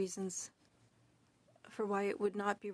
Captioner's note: speaking French